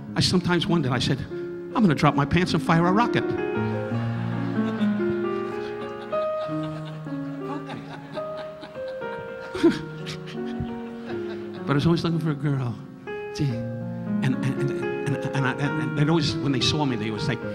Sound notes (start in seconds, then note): 3.6 audience laughing; 9.5 Don chuckling